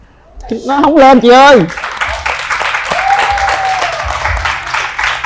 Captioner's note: applause